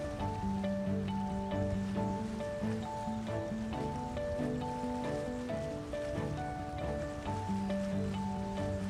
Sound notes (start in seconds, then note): 3.7 warm instrumental music; 3.7 water splashing